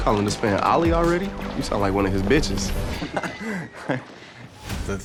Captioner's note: laughing